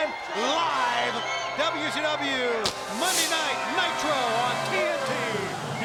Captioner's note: fireworks exploding